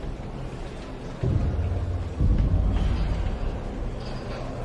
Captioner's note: prisoners chattering